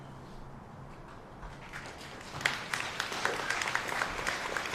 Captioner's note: applause